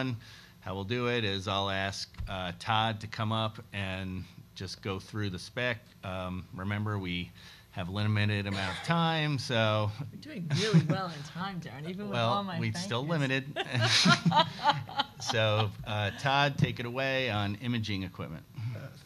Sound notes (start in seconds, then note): 14.4 laughing